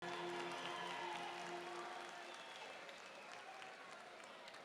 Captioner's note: audience applauding